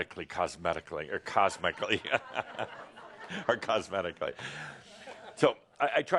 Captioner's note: laughter